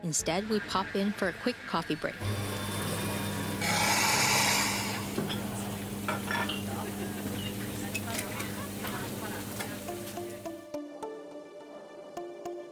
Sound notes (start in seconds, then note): 2.6 machines whirring; 10.1 soft music